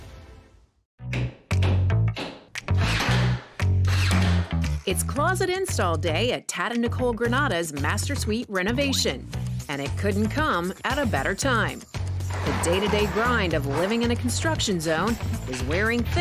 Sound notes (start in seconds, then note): 2.0 baseline funk; 3.3 hammering